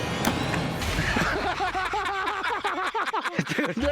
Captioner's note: laughter